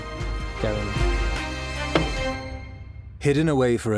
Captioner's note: gavel taps